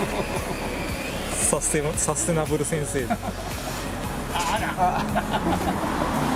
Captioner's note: laughs